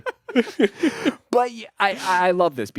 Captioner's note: all laughing